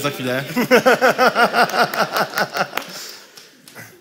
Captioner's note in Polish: śmiech